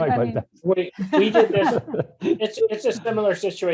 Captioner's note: both laughing